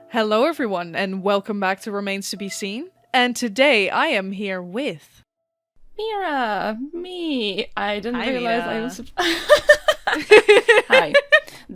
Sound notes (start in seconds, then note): 9.2 laughs